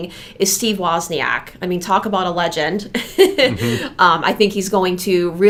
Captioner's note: chuckles